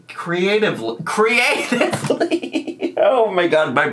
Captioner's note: laughs